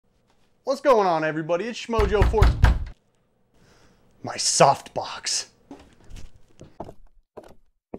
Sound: knock at door

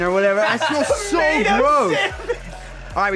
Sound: laughs

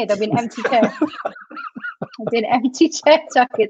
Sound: laughs

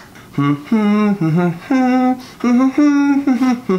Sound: humming

